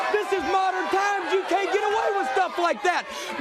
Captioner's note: crowd cheering